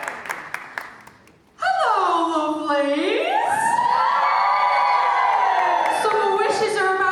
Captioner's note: audience cheering; audience cheer